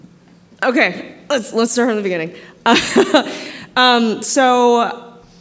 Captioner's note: laughter